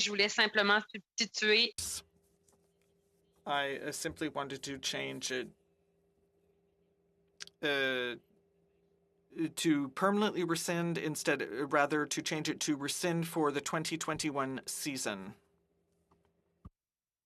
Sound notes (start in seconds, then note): 5.1 speaking French